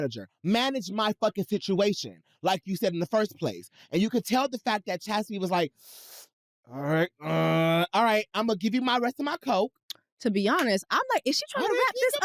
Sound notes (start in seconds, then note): 6.2 growls